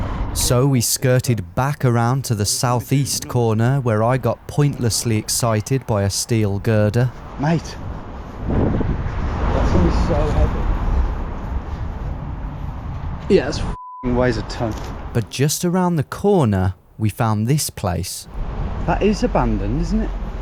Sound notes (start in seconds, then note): 13.7 beep